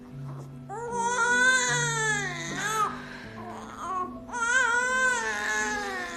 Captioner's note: crying; baby crying